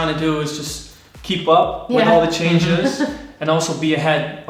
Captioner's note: laughing